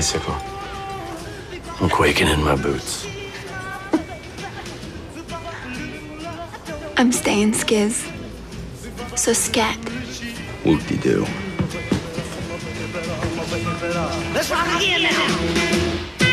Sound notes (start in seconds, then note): 3.8 chuckles